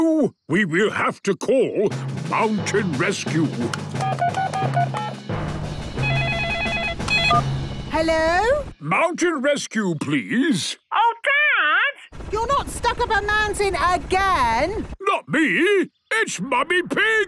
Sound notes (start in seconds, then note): 4.0 phone beeping; 6.0 phone ringing